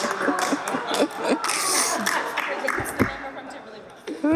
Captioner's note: laughter